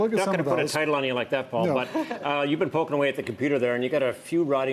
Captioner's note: laughter